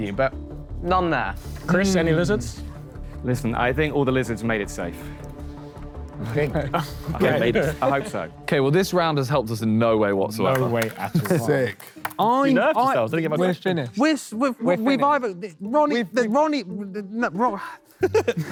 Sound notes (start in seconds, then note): 6.2 Sidemen laugh; 14.3 stuttering